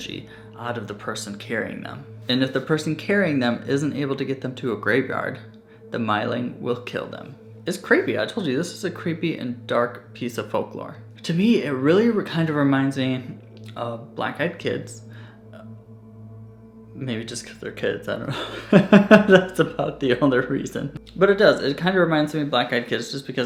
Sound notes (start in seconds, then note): 18.3 chuckles